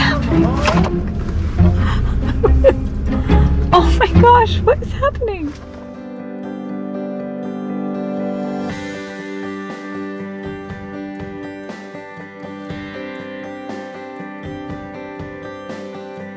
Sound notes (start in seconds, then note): 1.7 laughs